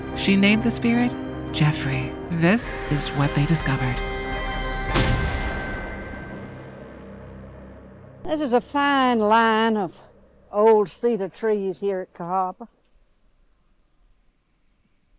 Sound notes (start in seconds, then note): 4.1 dramatic ominous music; 6.4 title thudding